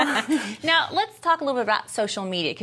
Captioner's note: laughing